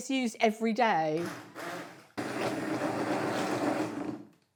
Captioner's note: loud whirring